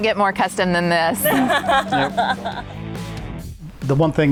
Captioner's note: laughing